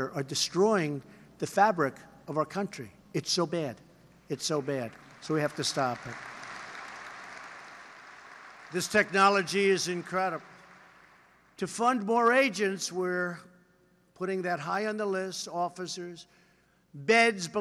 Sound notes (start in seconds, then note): 4.6 applause